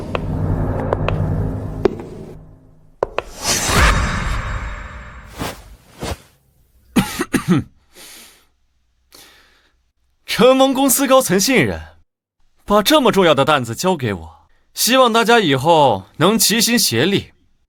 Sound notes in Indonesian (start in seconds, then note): 6.9 batuk